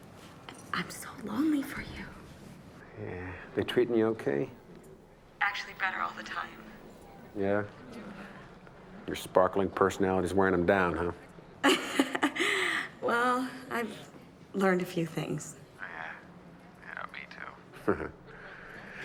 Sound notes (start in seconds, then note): 11.7 laughs; 17.8 chuckles